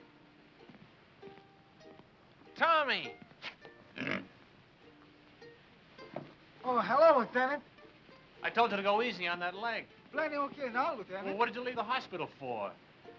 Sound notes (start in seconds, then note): 3.9 pig snorts